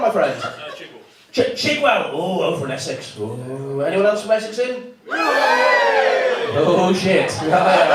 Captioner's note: massive cheer